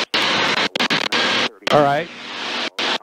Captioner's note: radio static